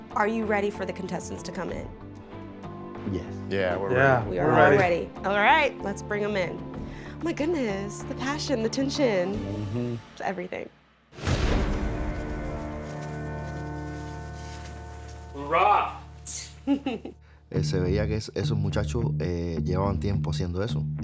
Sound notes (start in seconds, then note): 11.1 suspenseful music; 16.3 chuckles